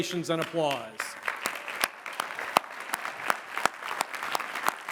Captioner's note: applause